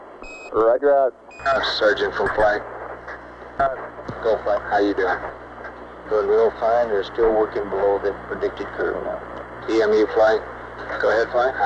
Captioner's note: mission Control Audio